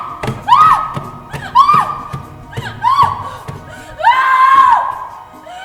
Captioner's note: screaming and punches against the box